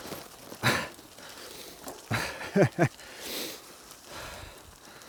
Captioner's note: nervous laughter